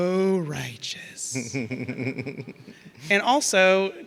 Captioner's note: laughing